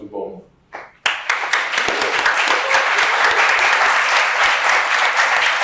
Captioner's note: applause